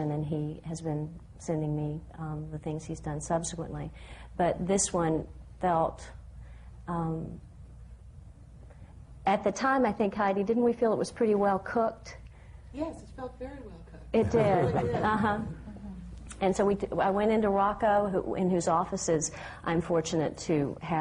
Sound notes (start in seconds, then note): 14.2 laughter